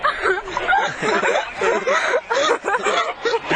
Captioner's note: laughter